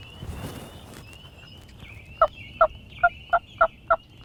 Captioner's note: leaves rustling; hunter using turkey call